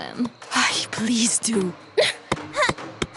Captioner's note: sighs